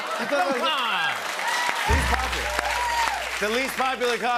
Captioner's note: cheers and applause